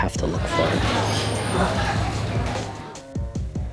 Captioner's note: Loud sounds of busy Yum Cha